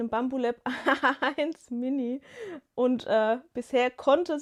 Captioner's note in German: gelächter